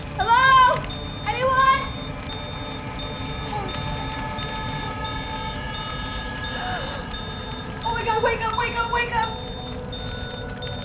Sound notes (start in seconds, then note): 6.4 gasps